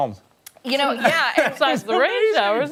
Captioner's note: laughter